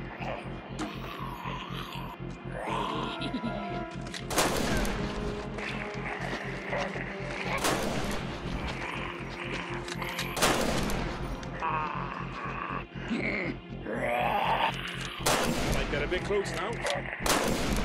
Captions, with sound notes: (thudding) (snarling) (giggling) (gunshots booming) (snarling) (gunshots booming) We've got a big gun now.